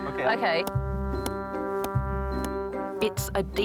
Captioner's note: hammering